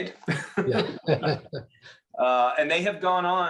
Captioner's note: laughs